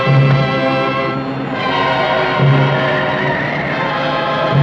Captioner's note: tires Screeching